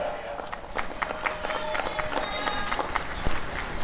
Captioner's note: applause and cheering